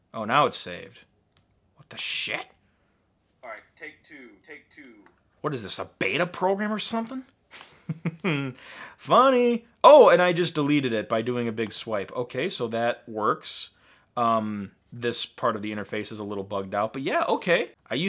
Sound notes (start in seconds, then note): 7.6 laughing